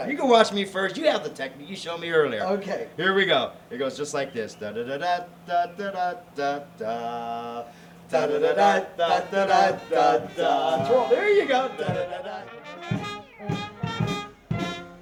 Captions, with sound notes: - All right. - You can watch me first, you have the technique you showed me earlier. - Okay. - Here we go. It goes just like this. (humming) There you go. (acoustic music)